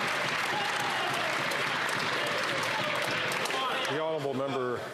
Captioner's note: some Applause